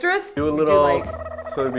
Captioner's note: noodly sound